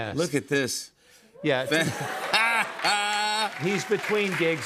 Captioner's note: laughs